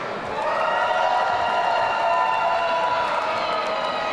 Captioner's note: audience cheering